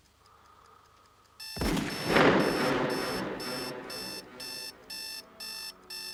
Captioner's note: alarm buzzes, gunshot echoing